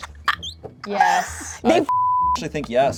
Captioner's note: laughs; beep